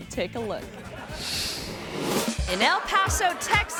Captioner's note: screen swooshes; crowd members laugh